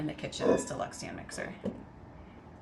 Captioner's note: bowl clanging